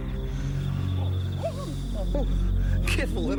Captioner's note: wolf barking